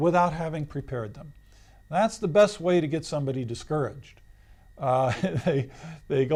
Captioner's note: laughs